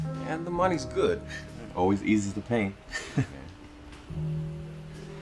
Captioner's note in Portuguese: risos